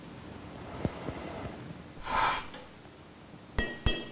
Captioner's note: hissing